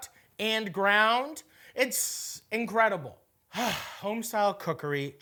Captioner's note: sighs